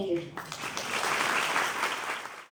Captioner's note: audience applauds